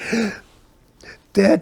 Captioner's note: laughing